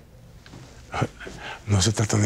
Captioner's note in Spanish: Ríe